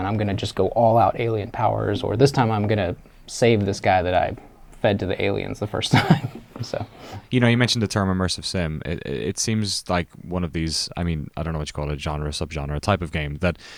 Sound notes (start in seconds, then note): 5.9 laughs